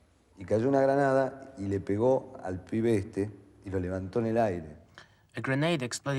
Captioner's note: man speaking in foreign language